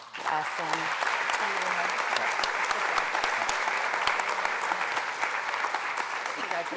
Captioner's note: applause